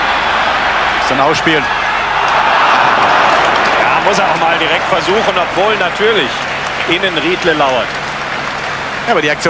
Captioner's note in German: jubel